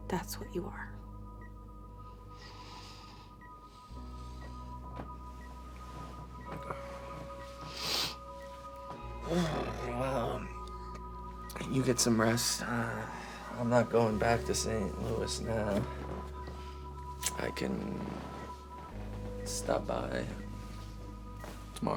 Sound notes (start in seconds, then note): 2.0 dramatic electronic music; 7.6 Drew snivels; 9.3 Drew groans